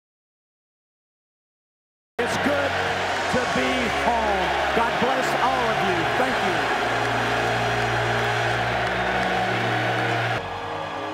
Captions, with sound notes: I APPRECIATED THAT. [ LAUGHTER AND APPLAUSE ] I CAN SAY THAT, COACH. YOU REMEMBER THAT, DON'T YOU?